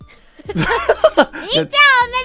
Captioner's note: both laugh